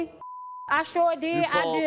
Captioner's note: beep